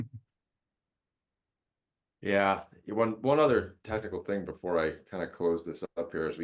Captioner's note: laugh